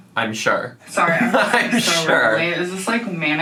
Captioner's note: laughing